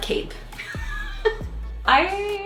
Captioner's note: laughing